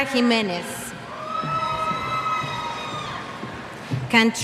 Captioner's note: cheers